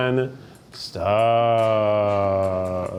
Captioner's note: chuckles